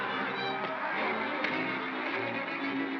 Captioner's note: thump & crack